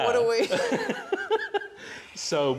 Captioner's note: laughter